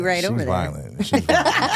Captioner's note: hosts laughing